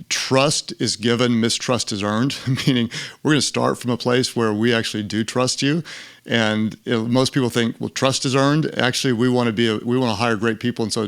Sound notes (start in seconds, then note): 2.3 laughs